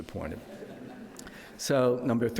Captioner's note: audience laughs